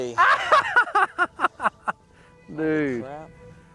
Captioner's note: laughs loudly